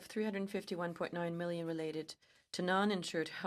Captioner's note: speaking french